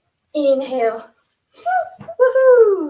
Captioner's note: cheers